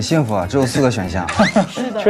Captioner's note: laughs